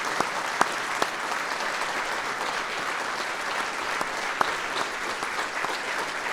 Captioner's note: applause